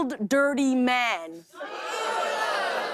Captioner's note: audience groans